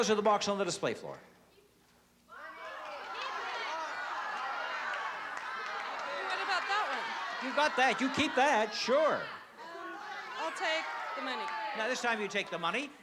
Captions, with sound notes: You can have $400 or the box on the display floor. [audience yelling] - What about that one? - You got that. You keep that. Sure. - I'll take the money. - Now this time you take the money,